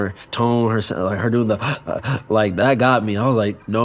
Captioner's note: gasping